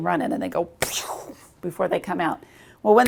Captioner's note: air whooshes